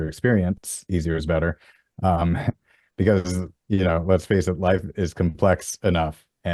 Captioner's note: laughs